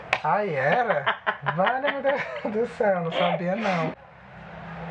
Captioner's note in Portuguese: risadas